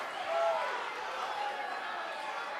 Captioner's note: crowd cheering; crowd chatter